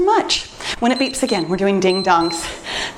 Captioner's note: timer beeps